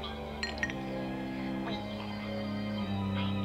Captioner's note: glass clinks